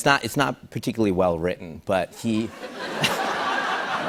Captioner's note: laughter